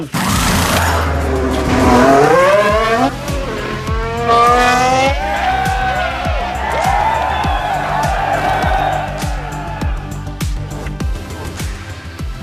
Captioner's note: car engine roaring; crowd cheering